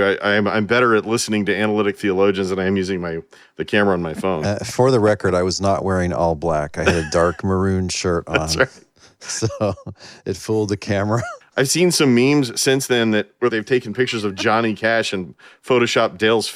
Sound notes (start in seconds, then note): 4.1 laughs; 14.1 laughing